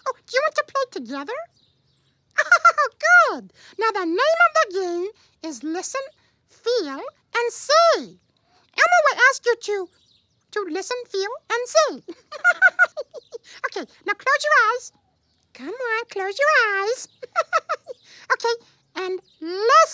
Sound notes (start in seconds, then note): 12.0 giggles